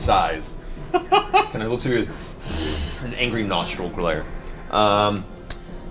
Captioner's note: growls